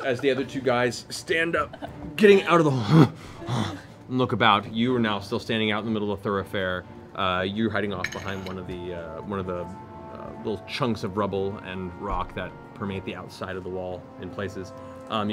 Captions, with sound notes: the other two guys stand up, getting out, (grunts) and look about. You are now still standing out in the middle of a thoroughfare, you're hiding off behind the... One of the chunks of rubble and rock that permeate the outside of the wall in places.